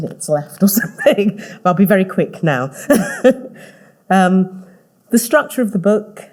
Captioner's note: laughing